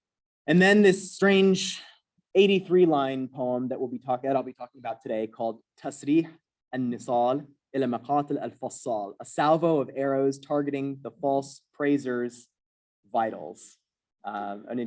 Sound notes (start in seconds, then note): 7.8 non-english